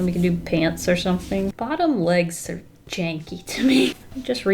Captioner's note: laughs